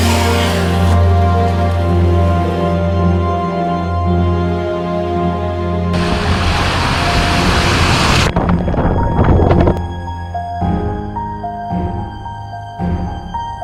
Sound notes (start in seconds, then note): 7.9 water splashes; 10.7 intense music